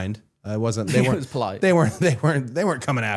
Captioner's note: laughing